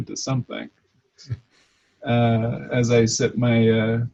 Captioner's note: laughs